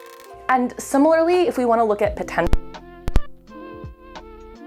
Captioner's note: mic cuts out